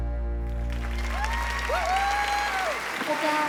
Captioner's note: applause